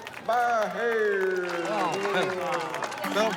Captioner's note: clapping